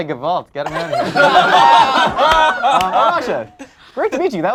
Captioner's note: group laughs